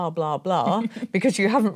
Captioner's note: chuckling